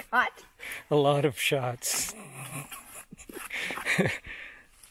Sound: laughing

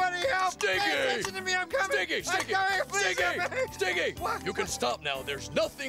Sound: Stinky yelling

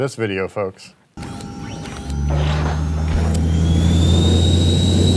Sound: machine whirring

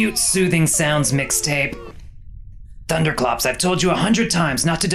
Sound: pained moans and groans stop

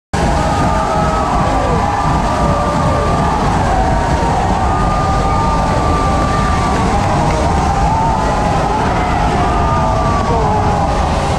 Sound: applause

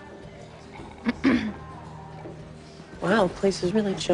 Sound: clears throat

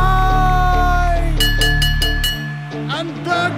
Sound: bell ringing

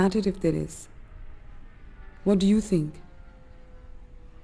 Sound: airplane engine roaring

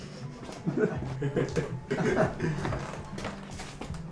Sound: laughter

